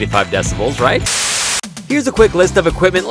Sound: static crackling

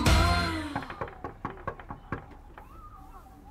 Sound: knock on door

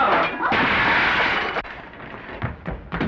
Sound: dishes shatter

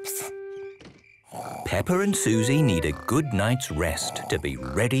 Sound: Peppa and Suzy snoring

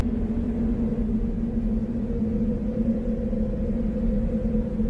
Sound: eerie atmospheric noise

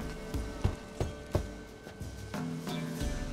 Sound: knock

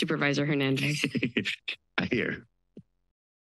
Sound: chuckles

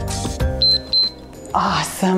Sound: timer beeps

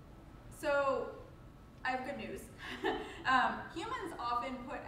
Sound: chuckles

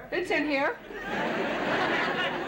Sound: laughter

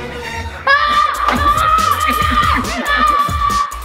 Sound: alien gurgles; screaming

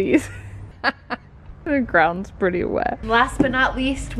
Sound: laughs

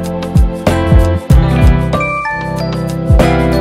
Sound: incoming Line message

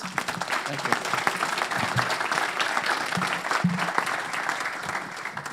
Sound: audience applauds

